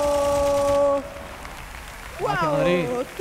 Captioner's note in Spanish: Aplausos